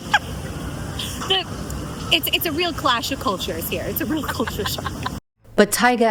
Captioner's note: hoots